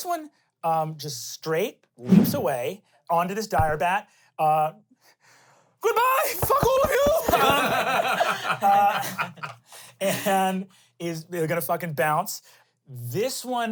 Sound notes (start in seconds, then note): 6.6 everyone laughs